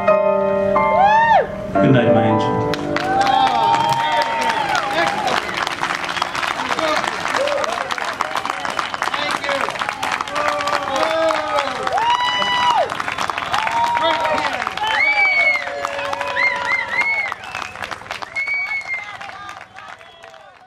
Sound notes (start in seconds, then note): 2.6 applause